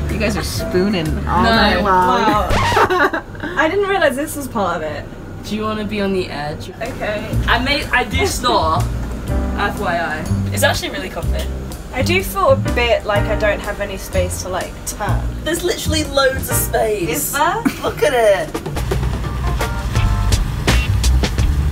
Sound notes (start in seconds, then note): 2.3 chuckles; 2.4 record scratches; 19.0 funky music